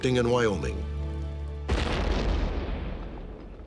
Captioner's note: blast